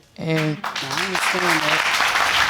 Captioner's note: audience clapping